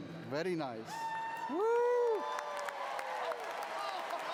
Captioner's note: cheering